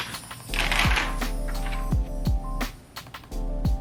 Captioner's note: paper crackling